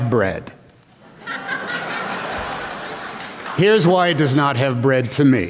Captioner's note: laughter